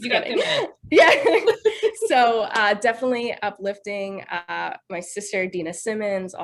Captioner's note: laughs